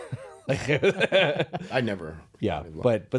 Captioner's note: laughing